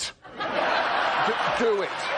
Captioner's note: crowd laughs